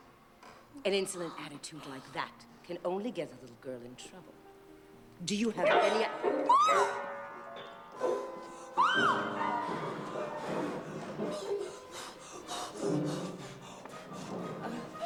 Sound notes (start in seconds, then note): 4.4 piano keys sound; 6.7 blows; 9.8 blowing